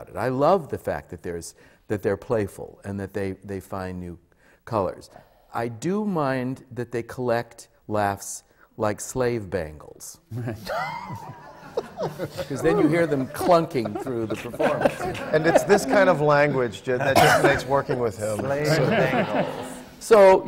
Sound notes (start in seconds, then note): 10.3 laughter, especially from the panel